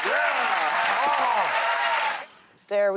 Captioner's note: audience cheering